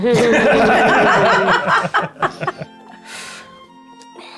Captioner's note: players laughing